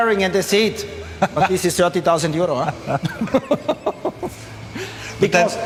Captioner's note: laughing